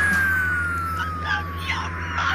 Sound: sobbing

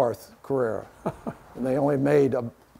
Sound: laughing

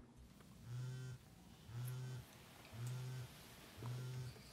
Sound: phone vibrating

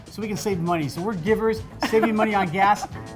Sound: laughs

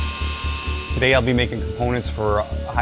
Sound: machine buzzing

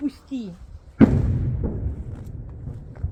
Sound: explosion

